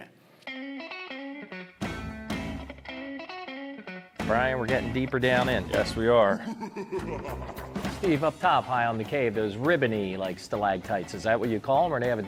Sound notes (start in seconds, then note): 0.1 upbeat music; 6.1 evil laughing